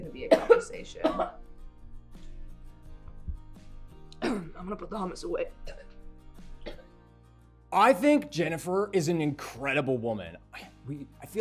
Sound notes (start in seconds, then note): 0.1 coughing; 4.2 clears throat